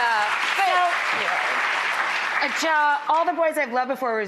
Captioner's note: audience applauds